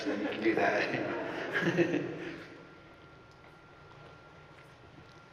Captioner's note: audience laughing